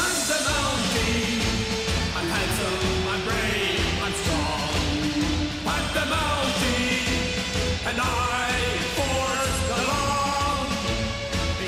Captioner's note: crowd cheering